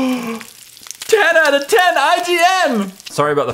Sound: gasps; bacon sizzles

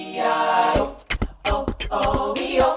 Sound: beatboxing

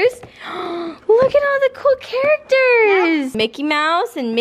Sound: gasp

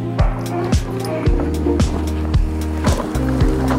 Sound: Maya barks; wooden clattering

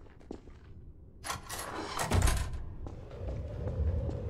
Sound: doors closing

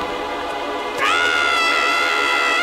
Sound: screaming

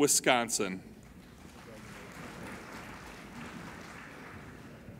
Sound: applauding

